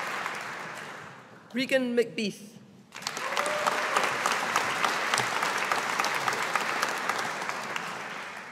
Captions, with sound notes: Regan McBeath. (AUDIENCE APPLAUDING)